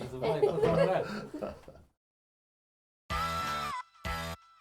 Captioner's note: laughing; upbeat electronic music